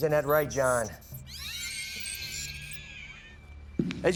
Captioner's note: shrieker noises